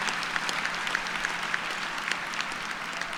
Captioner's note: cheers and applause